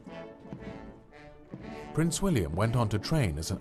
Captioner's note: voiceover